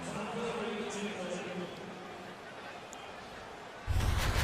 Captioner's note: pa announcement